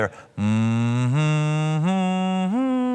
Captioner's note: humming